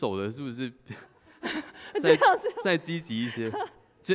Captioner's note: laughs